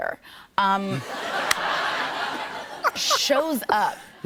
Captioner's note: laughter